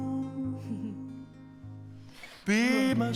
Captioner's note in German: kichert